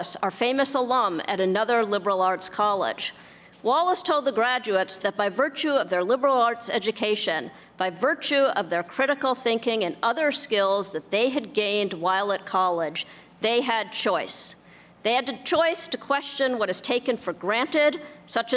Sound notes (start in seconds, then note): none